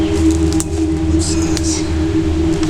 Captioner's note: whispers